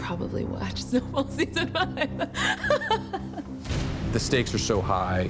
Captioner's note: laughs